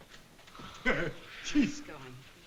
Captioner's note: laughs